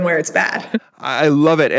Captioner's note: laugh